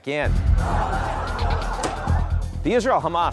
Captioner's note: citizens talking; sirens ringing